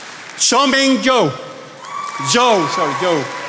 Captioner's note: attendees applauding